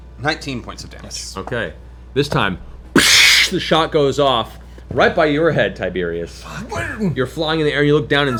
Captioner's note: gunshot